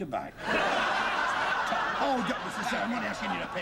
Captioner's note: they start arguing